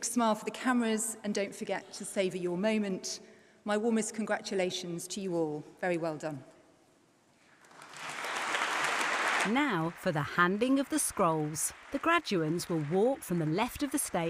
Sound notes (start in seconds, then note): 7.5 applause